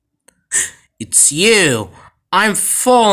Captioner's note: gasp